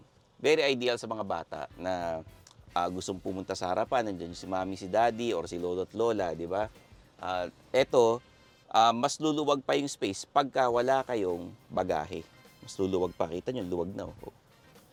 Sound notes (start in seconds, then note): none